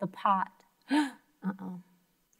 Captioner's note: gasps